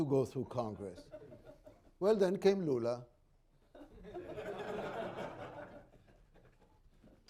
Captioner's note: laughter